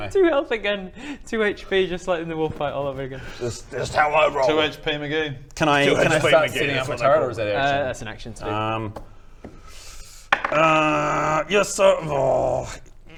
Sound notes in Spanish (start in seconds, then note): 10.3 tirada de dados